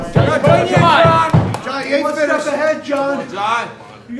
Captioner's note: audience cheering